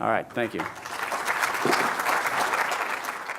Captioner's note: applause